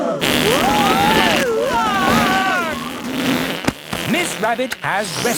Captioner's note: crowd gasps; screaming